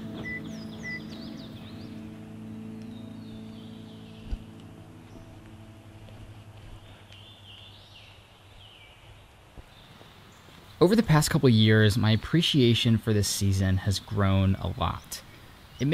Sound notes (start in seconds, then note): 0.0 car door closing; 0.0 car alarm beeping; 7.8 birds chirping